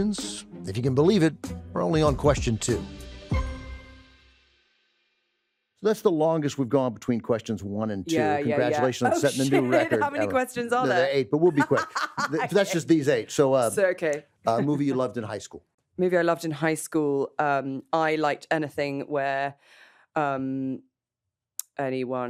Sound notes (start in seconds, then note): 2.9 theme music concludes; 11.4 laughs